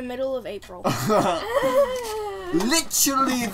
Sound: laughter

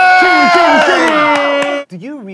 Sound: sound of cheering

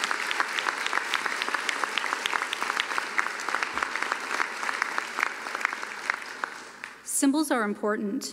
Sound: applause

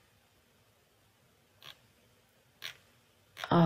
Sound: mouse scrolls

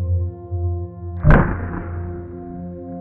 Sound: slow mo shoots are fired

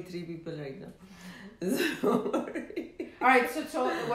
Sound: laughing

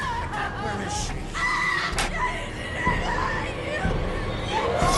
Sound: screams

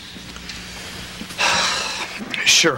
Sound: sighs

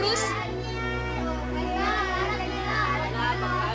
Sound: indistinct chattering

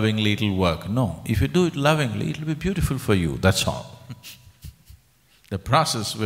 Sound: laughs

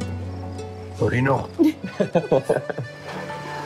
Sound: chuckles

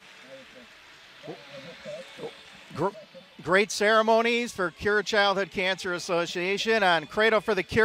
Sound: cheers and applause

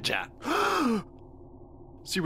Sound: gasp

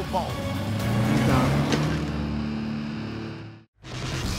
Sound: engine revs

